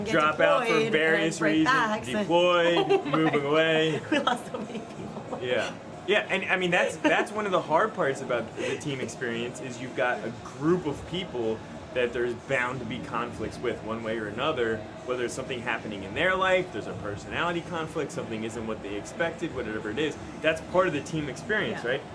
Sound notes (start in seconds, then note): 2.6 laughter